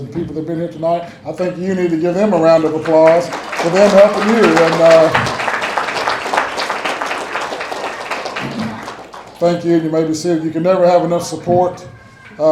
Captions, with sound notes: I think we need give this group round of applause for everyone. (people clapping)